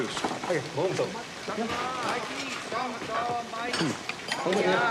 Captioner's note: speaking native language